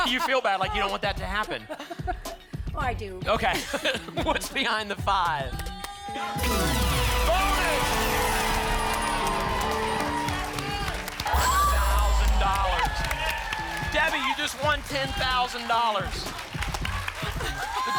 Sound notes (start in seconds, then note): 8.3 applause and cheering; 11.2 screams; 13.0 applause and cheering; 16.1 applause and cheering cont